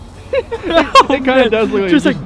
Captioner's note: laughing